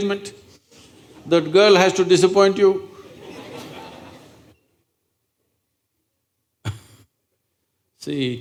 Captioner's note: laughter